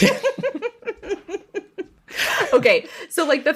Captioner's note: laughs